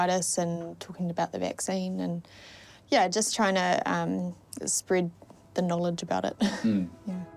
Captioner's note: chuckles